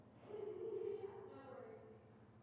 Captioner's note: laughs